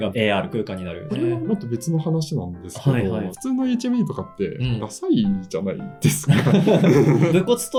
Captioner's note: laughs